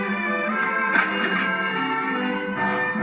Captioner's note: ding